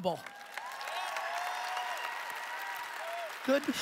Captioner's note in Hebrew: הקהל מריע